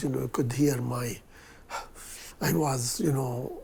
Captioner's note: breathes heavily